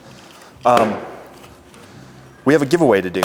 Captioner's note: loud slam